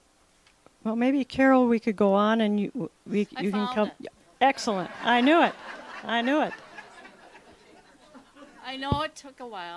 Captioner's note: laughter